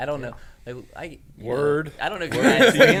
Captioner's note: laughing